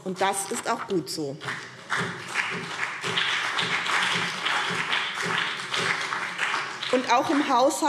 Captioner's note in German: Beifall BÜNDNIS 90/DIE GRÜNEN und CDU